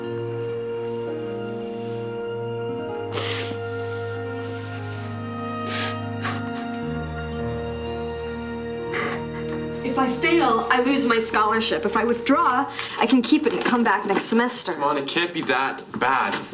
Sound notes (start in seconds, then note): 3.0 sniffles; 5.6 sobbing